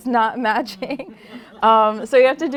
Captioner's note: laughter